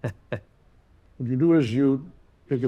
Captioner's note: chuckles